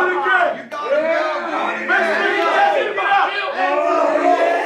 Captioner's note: shouting